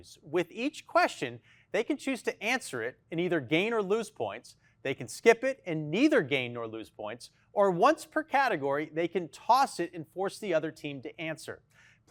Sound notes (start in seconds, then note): none